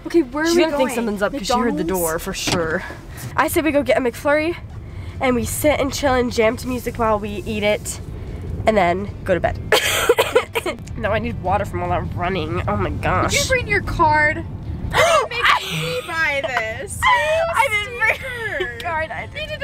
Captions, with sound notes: - Okay, where are we going? - She's going to think something's up 'cause she - McDonalds? heard the door for sure. I say we go get a McFlurry and we sit and chill and jam to music while we eat it, and then go to bed. (laughing) now I need water from all that running, oh my gosh. - Did you bring your card? (gasps) You're gonna make me buy this. You stinker! - I didn't bring my card.